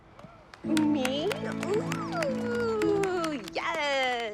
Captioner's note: applause